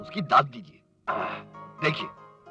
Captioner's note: sighs